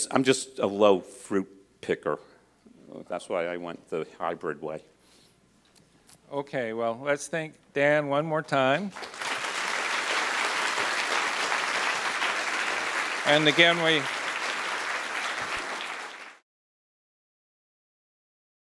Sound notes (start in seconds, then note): 8.8 applause